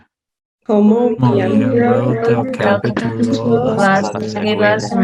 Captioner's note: group speaking Spanish